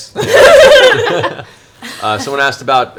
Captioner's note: all laugh